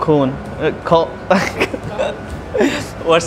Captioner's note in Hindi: हँसते हैं